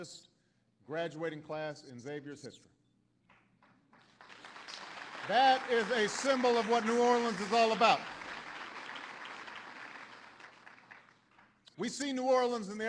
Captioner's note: applause